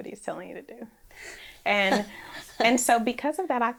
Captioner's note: laughs